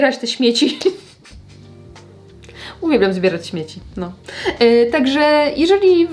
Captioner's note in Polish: śmiech